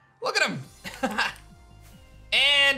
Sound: laughs

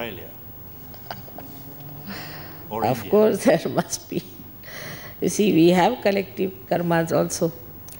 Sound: shri mataji laughs

